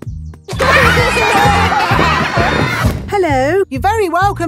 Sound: laughter

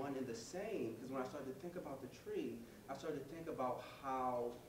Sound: none

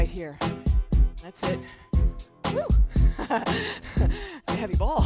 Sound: chuckling

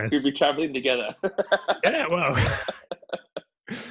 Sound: laugh

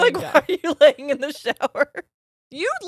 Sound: both laughing

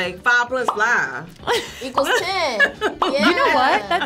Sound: bubble pops; laughs

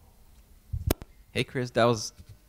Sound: voiceover

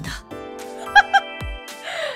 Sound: chuckles

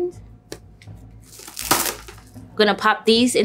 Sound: saran wrap tearing

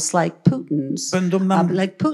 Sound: foreign language

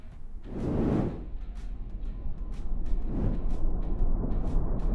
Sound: subtle whooshing

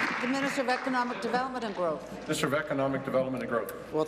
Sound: applause

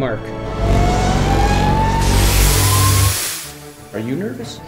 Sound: engine revving

